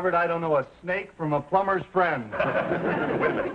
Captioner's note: audience laughing